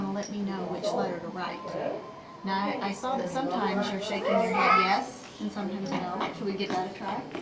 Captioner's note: child vocalizes